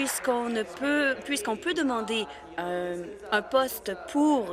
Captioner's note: applause